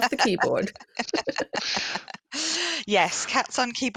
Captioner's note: laughter